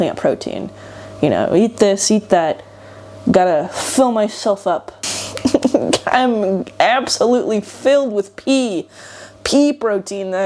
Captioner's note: giggles